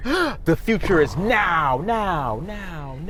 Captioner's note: gasps